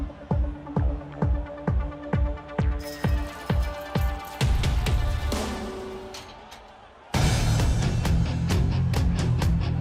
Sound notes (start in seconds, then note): 3.5 gate squeaking, clattering